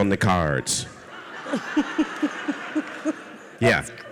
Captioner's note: audience laughs